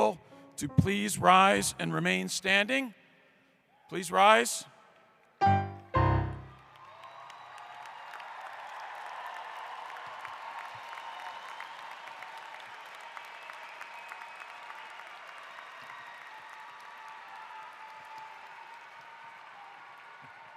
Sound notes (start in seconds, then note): 6.4 applause; 6.4 cheering